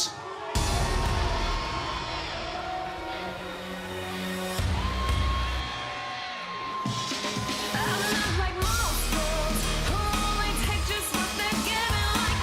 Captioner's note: crowd cheering